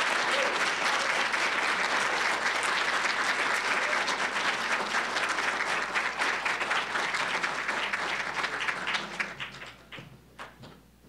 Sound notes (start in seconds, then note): 0.0 applause, cheering; 2.7 applause